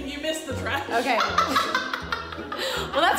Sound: laughs

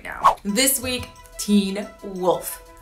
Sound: swooshing

